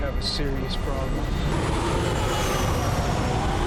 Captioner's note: wind whooshing